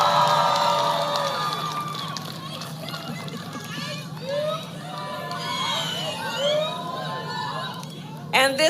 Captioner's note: applause